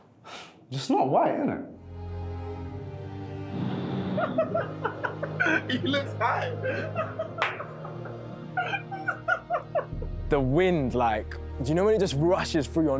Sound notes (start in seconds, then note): 4.1 laughs